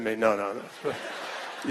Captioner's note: laughter